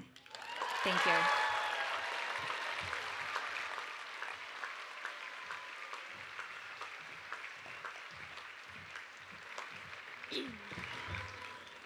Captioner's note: cheering and Applause